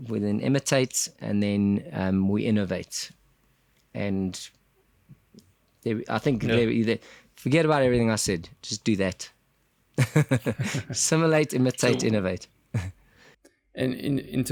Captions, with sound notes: We then imitate, and then we innovate. And forget about everything I said, just do that [laugh]. Assimilate, imitate, innovate!